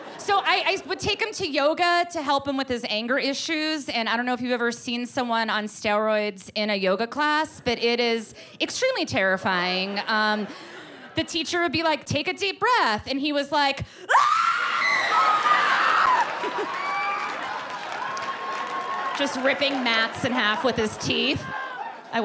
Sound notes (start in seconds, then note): 0.0 laughs; 14.1 shrieks; 16.2 laughter